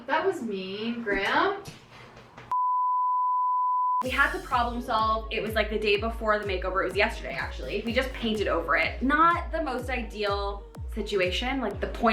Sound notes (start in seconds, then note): 2.5 production beep